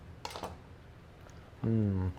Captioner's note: utensils clanking